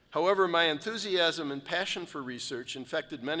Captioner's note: none